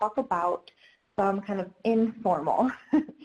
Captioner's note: laughs